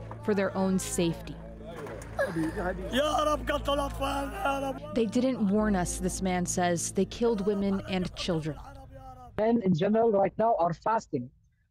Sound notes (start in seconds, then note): 3.4 speaking alternate language